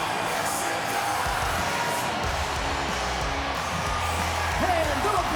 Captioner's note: crowd cheering; intense music